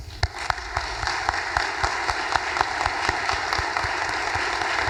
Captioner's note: audience applause